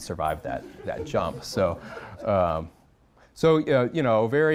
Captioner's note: audience chuckling